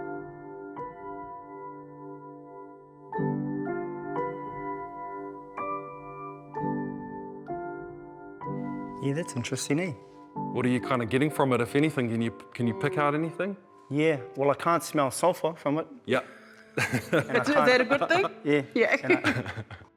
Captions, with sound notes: - Yeah, that's interesting, eh. - What are you kinda getting from it if anything? Can you pick out anything? - Yeah. Well, I can't smell sulphur from it. - Yeah. (CHUCKLES) - Is that a good thing? - Yeah.